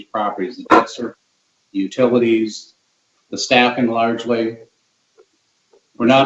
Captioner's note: speech distorted